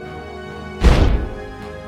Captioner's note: boom